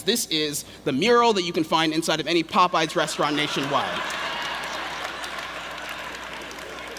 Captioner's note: laughter